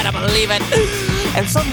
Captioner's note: inhale